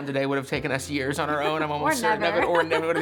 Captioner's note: laughs